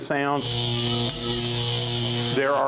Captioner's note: buzzing